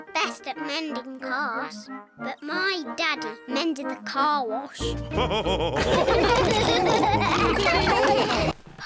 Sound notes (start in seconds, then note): 3.2 all laughing